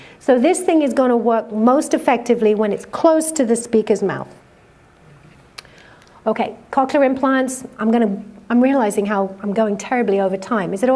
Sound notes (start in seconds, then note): none